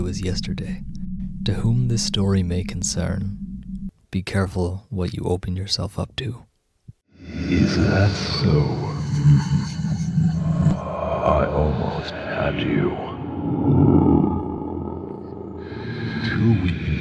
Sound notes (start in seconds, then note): 7.4 demonic chuckle; 10.6 demonic growl